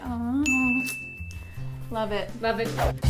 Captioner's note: ding